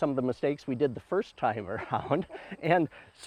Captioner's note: chuckles